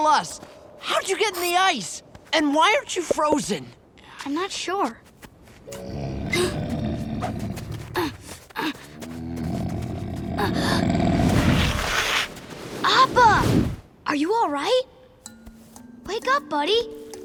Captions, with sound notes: How'd you get in the ice? And why aren't you frozen? I'm not sure. [Appa grunting] [Aang gasping] [Appa, Aang grunting] Appa. Are you all right? Wake up, buddy.